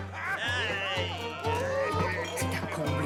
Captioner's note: men laughing; men shouting